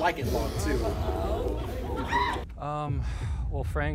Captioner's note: group exclaims